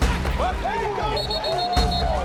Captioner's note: ref's whistle; intense Music Continues